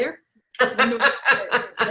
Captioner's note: laughs